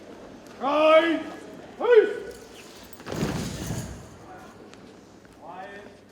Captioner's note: boots thump